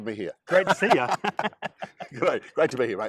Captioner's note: laughs